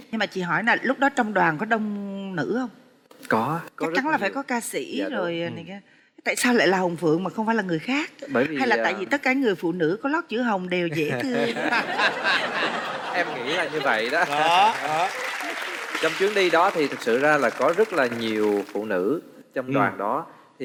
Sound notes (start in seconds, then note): 11.0 laughing; 14.8 applause; 14.8 laughing